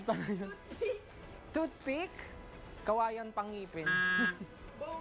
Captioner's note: laughs